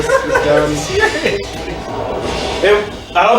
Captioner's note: laughing